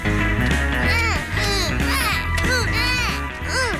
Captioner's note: both grunting